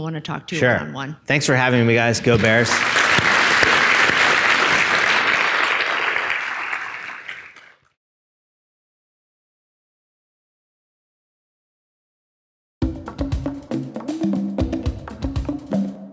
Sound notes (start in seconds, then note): 4.5 audience applauding; 12.8 instrumental music